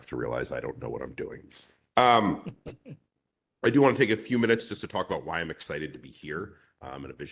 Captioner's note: laughter